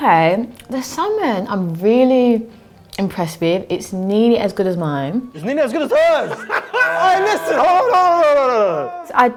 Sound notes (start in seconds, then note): 5.8 laughing